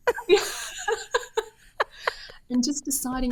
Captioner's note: both laughing